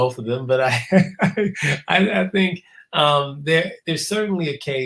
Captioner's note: laugh